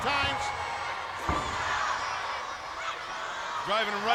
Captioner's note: crowd yelling